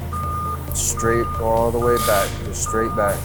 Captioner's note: alarm beeping